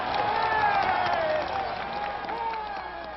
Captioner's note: applause